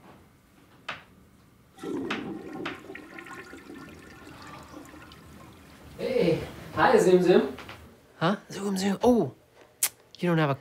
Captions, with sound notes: ( toilet flushes ) HEY. HI, ZOOM-ZOOM. HUH. ZOOM-ZOOM. OOH, YOU DON’T HAVE A CAR,